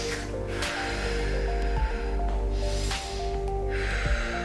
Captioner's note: breathing deeply